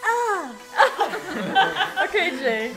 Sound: laughing

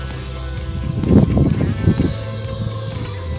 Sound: motor sound

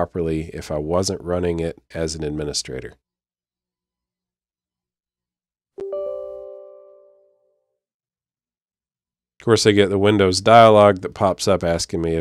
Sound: ding

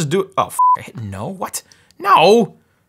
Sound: beep

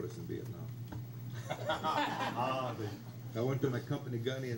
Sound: crowd laughs

